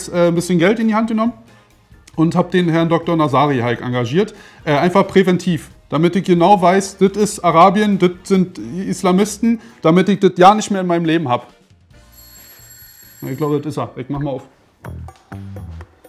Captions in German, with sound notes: Deswegen hab ich jetzt Geld in die Hand genommen und den Herrn Dr. Nazari engagiert, einfach präventiv. Damit ich genau weiß, das ist Arabien, das sind Islamisten. Damit ich das ja nicht mehr in meinem Leben hab. (Klingeln) Das ist er. Ich mach mal auf. (Relaxte Musik)